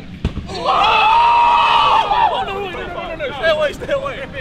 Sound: cheering

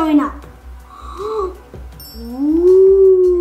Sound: gasping

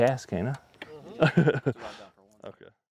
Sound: laughter

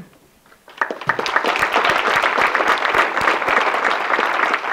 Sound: audience clapping

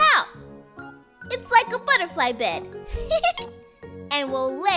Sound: laughs

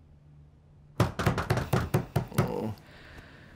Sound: banging on the door

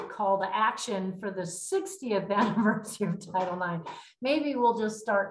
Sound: laughter

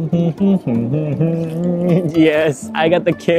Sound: hums

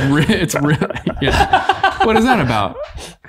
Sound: all laughing

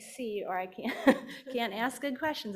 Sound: chuckling

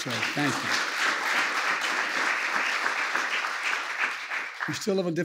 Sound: applause

